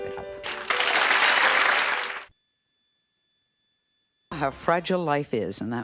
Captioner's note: audience applauds